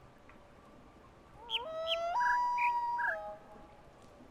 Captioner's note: coyote howls ˩˧˥˥ ˧; bird chirps five notes